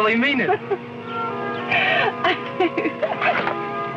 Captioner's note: Susan giggling